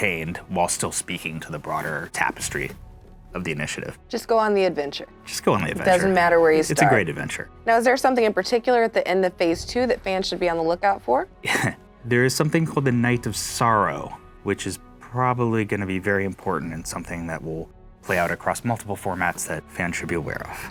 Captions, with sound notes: whilst still speaking to the broader tapestry of the initiative. - Just go on the adventure. - Just go on the adventure. - Doesn't matter where you start. - It's a great adventure. - Now, is there something in particular at the end of Phase II that fans should be on the lookout for? - [chuckles] There is something called the Night of Sorrow, which is probably gonna be very important and something that will play out across multiple formats that fans should be aware of.